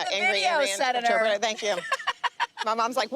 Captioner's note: laughing